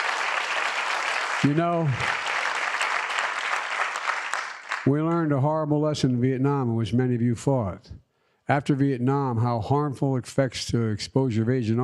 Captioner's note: applause